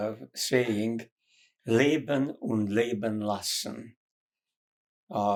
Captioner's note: german